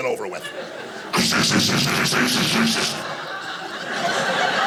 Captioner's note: imitating tape tearing; audience laughing